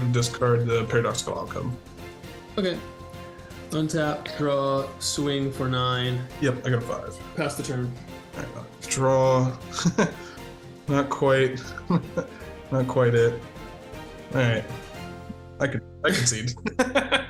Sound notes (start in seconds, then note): 9.6 laughs; 16.1 both players laugh